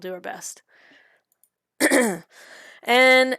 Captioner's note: clears throat